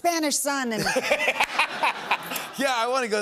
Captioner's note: laughter